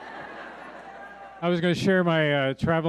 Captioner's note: audience laughing